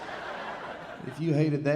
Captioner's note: audience laughing